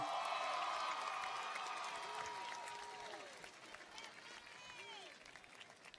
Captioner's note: audience cheers and applauds